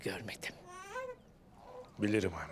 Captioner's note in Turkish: Bebek ağlama sesi